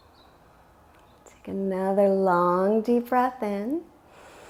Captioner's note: inhales